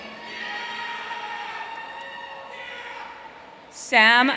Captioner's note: audience cheering